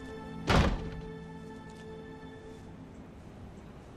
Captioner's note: door slams